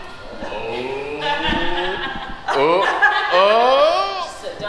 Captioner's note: laughs